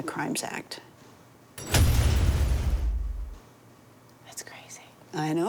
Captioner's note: metal rattling; metal thudding